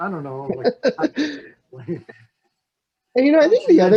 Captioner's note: laughs